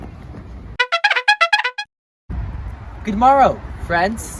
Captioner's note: horns blaring